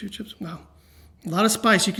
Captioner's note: sniffs